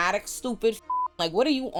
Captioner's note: beep